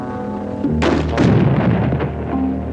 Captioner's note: gun shot; explosion